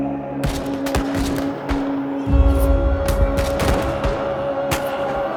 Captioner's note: guns firing